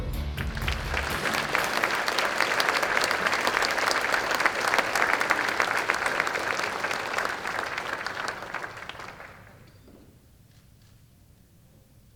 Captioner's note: applause